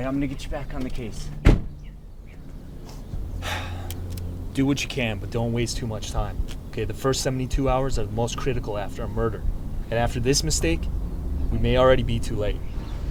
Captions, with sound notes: I'm gonna get you back on the case. (car door shuts) - (sighs) Do what you can, but don't waste too much time, OK? The first 72 hours are the most critical after a murder. And after this mistake, we may already be too late.